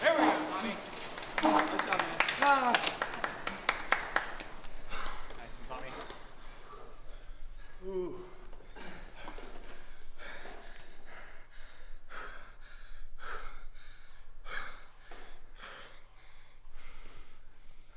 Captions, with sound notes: There we go, Tommy. [claps] -Ahh [claps] [gasping for breath]